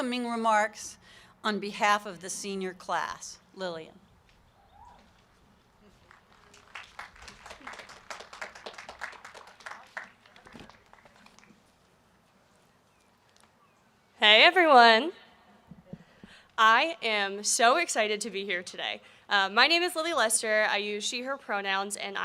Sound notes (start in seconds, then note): 6.0 applause